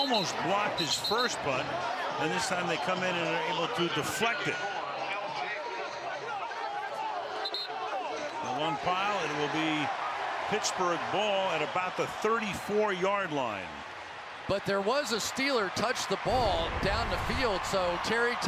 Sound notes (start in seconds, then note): 5.4 pa announcement; 6.3 chatter; 7.4 whistle blows